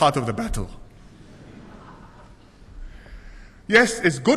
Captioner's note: laughter